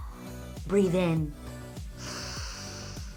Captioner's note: inhales and exhales